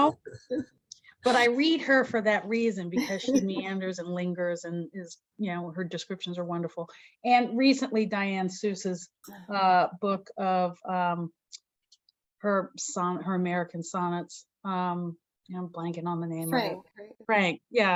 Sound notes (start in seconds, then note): 0.4 laughs; 3.0 chuckles